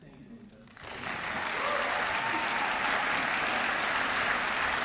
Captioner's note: applause